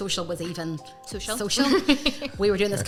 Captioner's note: laugher